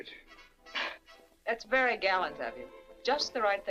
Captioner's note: chuckles